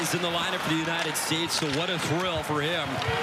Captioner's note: hockey stick striking ball